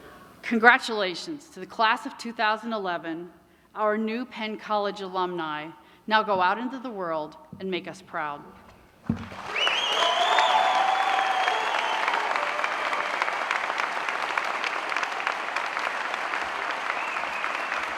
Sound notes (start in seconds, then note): 2.6 applause